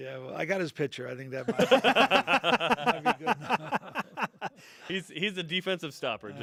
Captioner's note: laughter